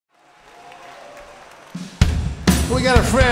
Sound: audience cheering and applauding

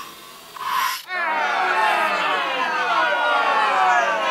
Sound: crowd jeers

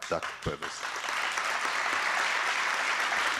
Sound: applause

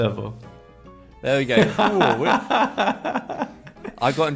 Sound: laughs

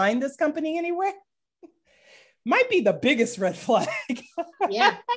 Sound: laughing

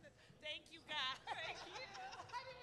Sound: laughing

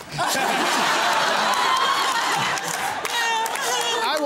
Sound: laughter

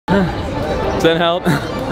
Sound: gasps

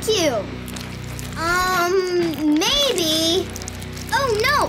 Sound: slime oozing

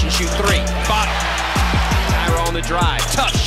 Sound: crowd cheering

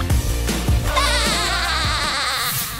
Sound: SpongeBob giggling

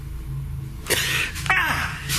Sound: gasps

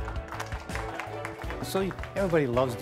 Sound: applause

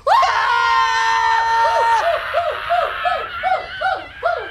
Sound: group screams

